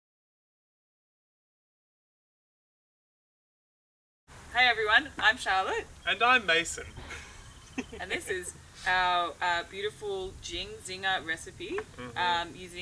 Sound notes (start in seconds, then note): 6.7 laughs